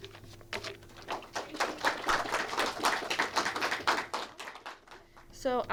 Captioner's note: audience clapping